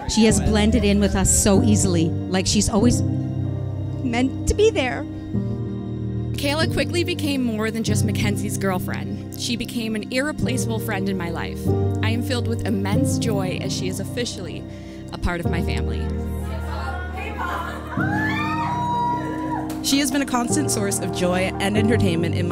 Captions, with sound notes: She has blended in with us so easily - like she's always meant to be there. M'Kaela quickly became more than just Mackenzie's girlfriend - she became an irreplaceable friend in my life. I am filled with immense joy as she is officially a part of my family. (Cheering) She has been a constant source of joy and entertainment in